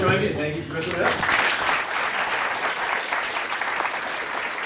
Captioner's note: applause